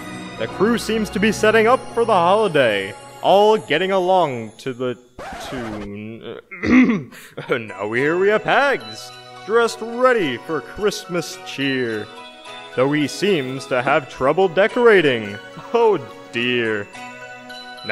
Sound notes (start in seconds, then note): 6.4 clears throat